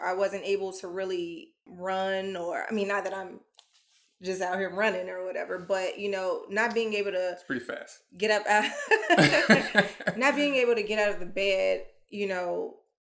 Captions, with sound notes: I wasn't able to really run or, I mean, not that I'm just out here running or whatever, but not being able to - It's pretty fast. get up (chuckles) not being able to get out of the bed,